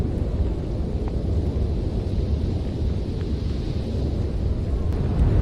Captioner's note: wind blowing